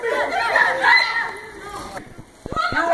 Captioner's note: screams